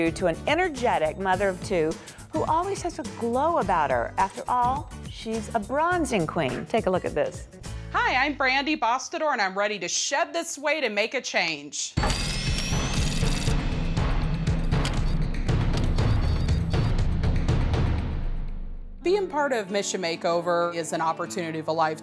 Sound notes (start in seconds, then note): 12.0 drilling, sound effects, drum beat